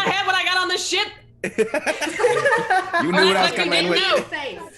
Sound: laugh

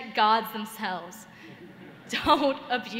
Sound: laughter

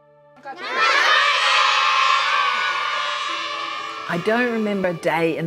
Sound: children shouting gleefully

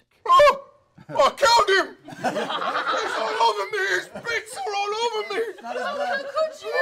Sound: yelps

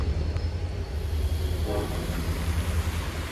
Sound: train horn blares

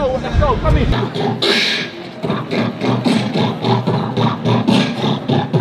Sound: person beatboxing

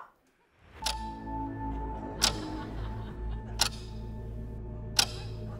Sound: clicking

